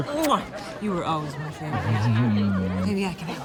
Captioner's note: chuckles